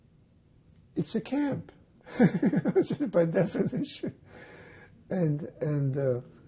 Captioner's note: laughing